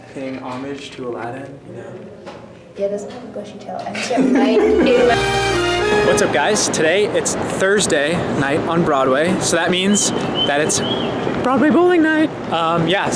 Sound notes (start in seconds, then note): 4.0 giggles; 5.0 orchestra music